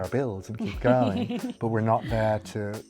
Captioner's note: laughs